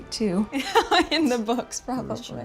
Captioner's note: laughing